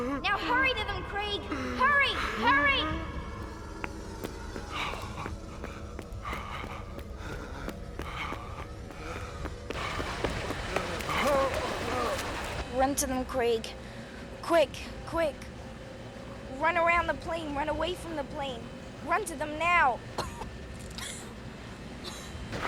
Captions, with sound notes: NOW, HURRY TO THEM, CRAIG. HURRY ! HURRY ! [ Panting ] - [ Groaning ] - RUN TO THEM, CRAIG. QUICK ! QUICK ! RUN AROUND THE PLANE. RUN AWAY FROM THE PLANE. RUN TO THEM NOW ! [ Coughing ]